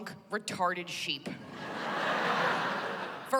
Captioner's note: laughter